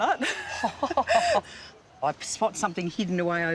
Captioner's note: both laugh